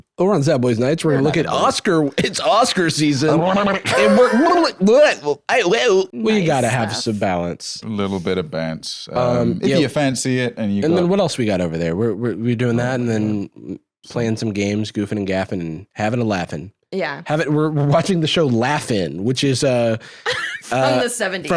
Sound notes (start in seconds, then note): 3.6 both making various cartoon wolf sounds